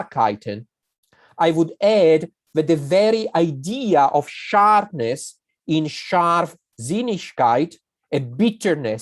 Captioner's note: german